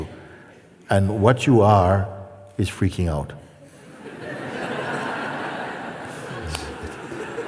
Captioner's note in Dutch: gelach